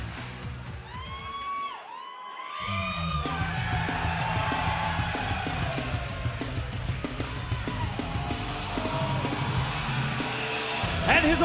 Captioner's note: crowd cheering